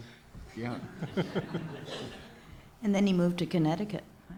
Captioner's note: audience laughs